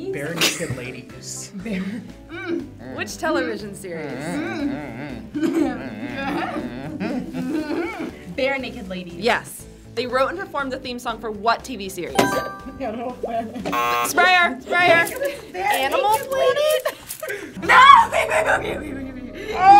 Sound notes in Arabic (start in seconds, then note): 2.3 كلاهما شخير; 12.2 قرع الجرس